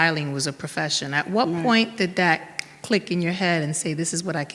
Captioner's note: snaps fingers